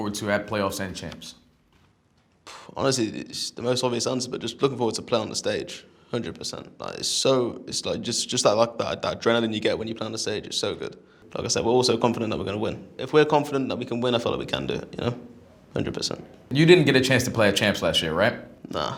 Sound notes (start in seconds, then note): 2.4 puffs